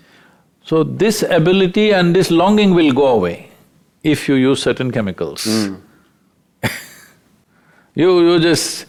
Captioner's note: laughs